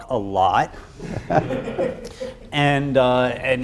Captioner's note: audience laughs